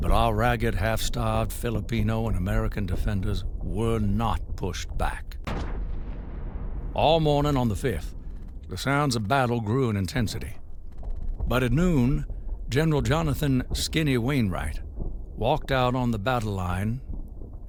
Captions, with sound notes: but our ragged half starved Filipino and American defenders were not pushed back. (loud explosion) All morning on the fifth, the sounds of battle grew in intensity, but at noon, general Jonathan Skinny Wainwright walked out on the battle line and with tears in his eyes